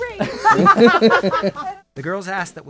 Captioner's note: laughs